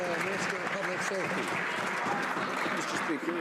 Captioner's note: some Applause